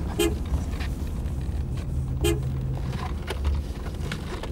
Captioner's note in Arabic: يتحدث لغة أجنبية; صافرة السيارة